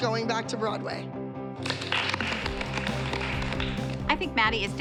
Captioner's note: applause